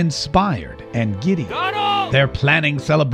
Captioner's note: yell